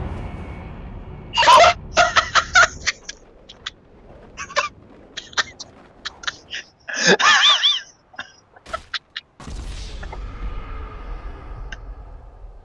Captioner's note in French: Rire saturé diabolique lointain